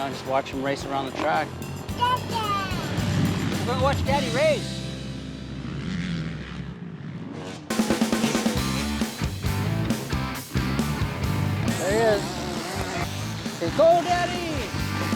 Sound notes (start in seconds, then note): 2.0 child babbling; 7.7 uptempo rock